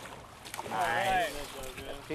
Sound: fish splashing

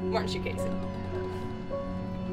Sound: creaking

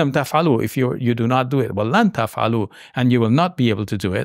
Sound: speaking in Arabic

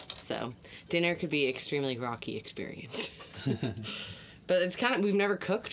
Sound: laughs

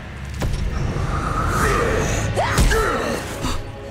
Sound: grunting

